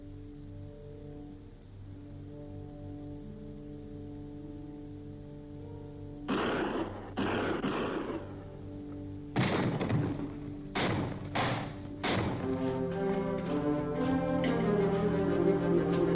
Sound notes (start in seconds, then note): 6.5 guns firing; 12.8 anticipatory music